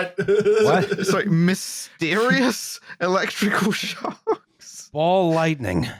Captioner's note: laughs; laughing